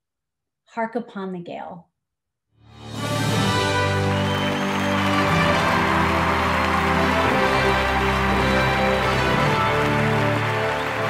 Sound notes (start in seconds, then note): 2.7 dramatic music; 3.4 crowd cheering